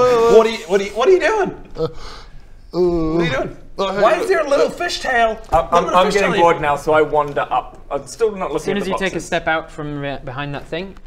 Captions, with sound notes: What're you? What're you doing? *yawn* What're you doing? Oh hey... Why is there a little fish tail? - I'm I'm getting bored now - little bit of fish tail so I wander up, still not looking at the boxes Soon as you take a step out from behind that thing